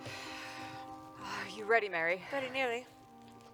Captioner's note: sighs